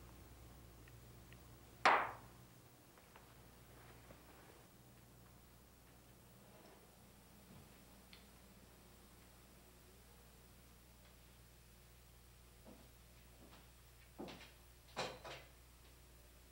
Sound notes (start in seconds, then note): 1.9 book thumps